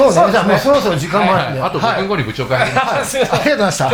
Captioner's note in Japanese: 笑い